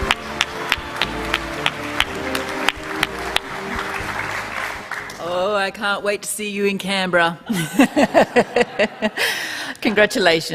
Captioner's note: applause